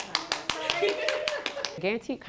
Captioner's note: laughter and clapping